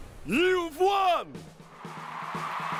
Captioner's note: cheers and applause